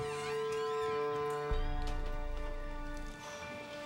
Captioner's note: door creaks; breathes deeply